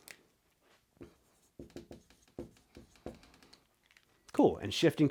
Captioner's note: marker scratching